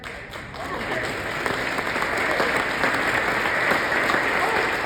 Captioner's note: audience claps